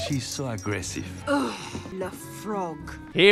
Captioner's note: groans